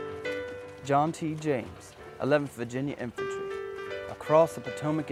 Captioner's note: voiceover